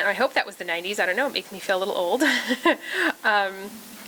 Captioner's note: laughter